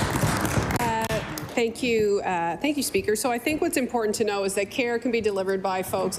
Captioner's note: applause